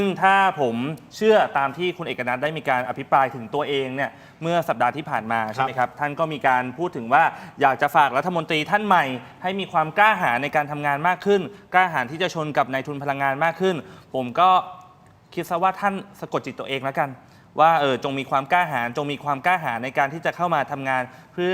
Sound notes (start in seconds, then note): none